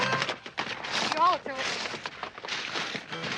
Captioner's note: both chattering